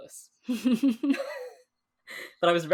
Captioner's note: both laugh